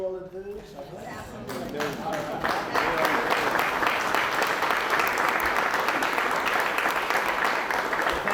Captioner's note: applause